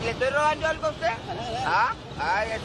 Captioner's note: officer speaks in foreign language